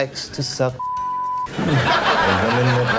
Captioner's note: beep